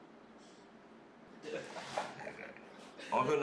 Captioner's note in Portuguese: risos